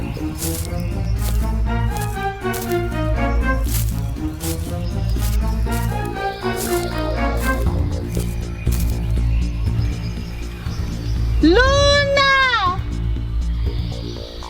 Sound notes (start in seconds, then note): 0.5 grass crunching; 3.2 dramatic music